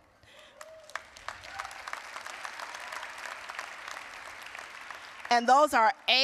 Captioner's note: applause